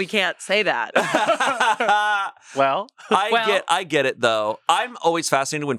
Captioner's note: laughs